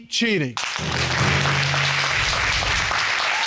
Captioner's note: audience applauds